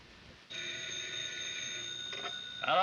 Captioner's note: phone rings